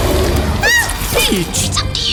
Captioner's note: mimi roars; peach screams